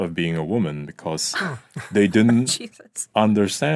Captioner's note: chuckling